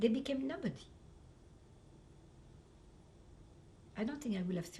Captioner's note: pauses for 3 seconds